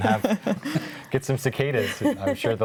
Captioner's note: group laughs